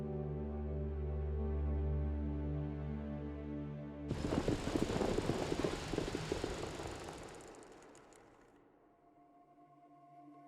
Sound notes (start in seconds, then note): 4.2 hooves trotting